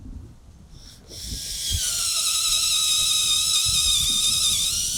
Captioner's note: drill spinning